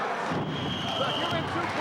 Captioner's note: whistling